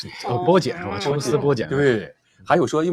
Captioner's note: laughs